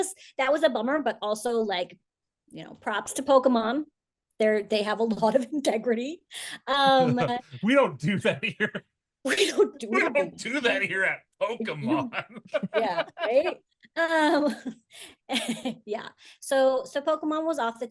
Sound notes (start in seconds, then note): 11.5 laughs